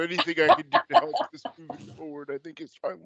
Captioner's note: laughs